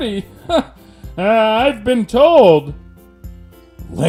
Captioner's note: laughs